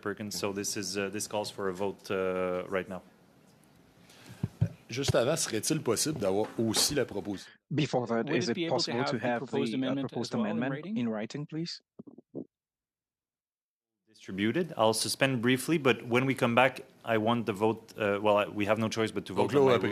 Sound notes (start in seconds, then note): 11.2 speaking French